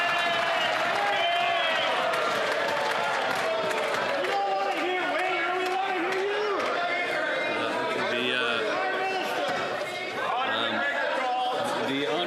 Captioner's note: some Applause